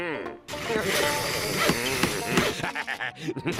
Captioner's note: pounding, sawing